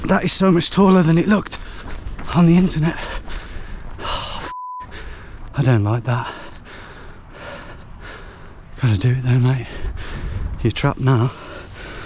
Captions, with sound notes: That is so much taller than it looked on the internet. Oh, (beep)! I don't like that. Gotta do it though, mate. You're trapped now.